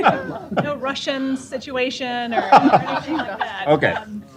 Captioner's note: laughter